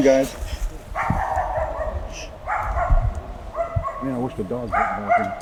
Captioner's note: dog barking